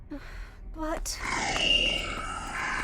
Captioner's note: hesitant; shrieks